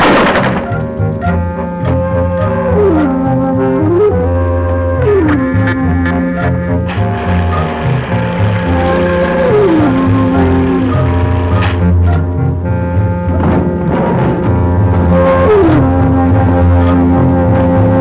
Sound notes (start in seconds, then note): 0.0 wheel clatters; 3.8 tense, mysterious music; 13.0 thumping